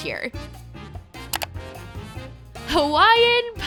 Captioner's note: clicking